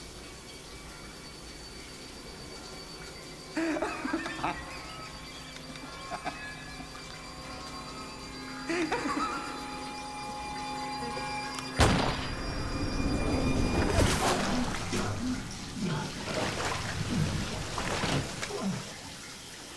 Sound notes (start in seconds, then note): 3.5 laughing; 11.8 gunshot; 13.9 gasps